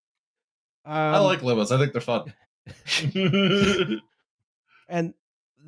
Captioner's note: laughs